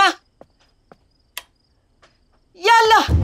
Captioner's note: Switching on light